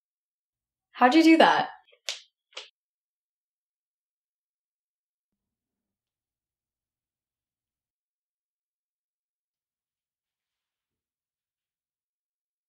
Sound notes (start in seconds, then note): none